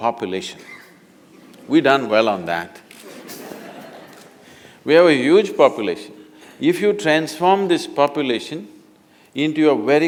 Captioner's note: laughter